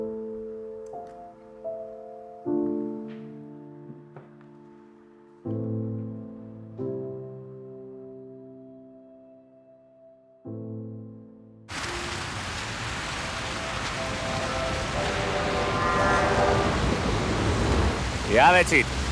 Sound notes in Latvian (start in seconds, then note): 15.3 zvana telefons